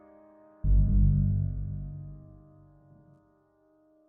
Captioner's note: none